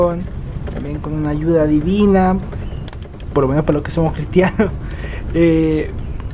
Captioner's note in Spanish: risas